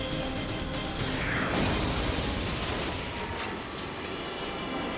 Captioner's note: dramatic music; explosion booms